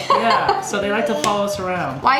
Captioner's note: laughing